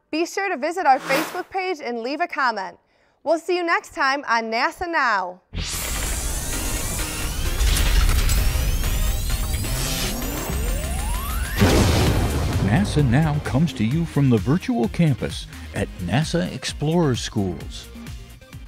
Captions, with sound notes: be sure to visit our Facebook page and leave a comment. We'll see you next time on NASA Now. [ Sound Effects ] NASA Now comes to you from the Virtual Campus at NASA Explorer Schools.